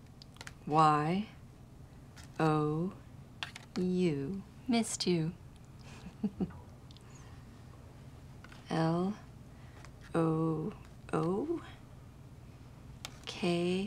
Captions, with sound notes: Y-O-U. Missed you. [chuckles] L-O-O-K.